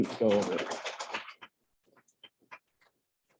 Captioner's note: applause